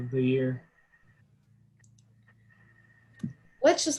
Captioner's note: awkward silence